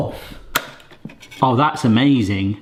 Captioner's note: lid clicks